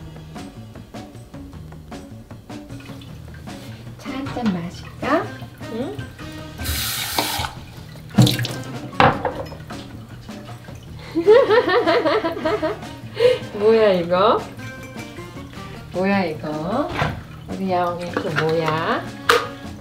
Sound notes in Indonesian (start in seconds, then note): 6.5 suara air; 8.9 ttak!; 11.0 tertawa